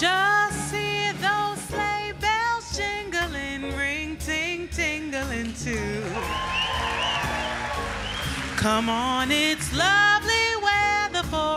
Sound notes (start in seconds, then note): 6.0 audience cheering; 6.0 audience applauding